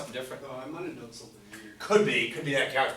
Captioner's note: voiceover